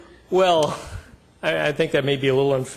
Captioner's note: laughing